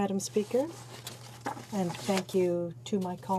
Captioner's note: speaking French